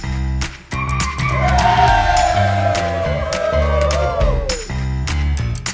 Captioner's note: cheers